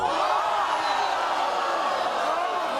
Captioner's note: audience groans